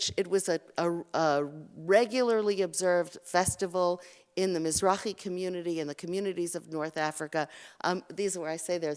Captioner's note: Hebrew